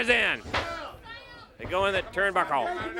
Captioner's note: crowd cheering